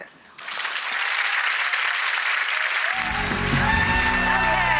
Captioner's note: audience applauds